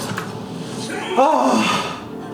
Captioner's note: A deep sigh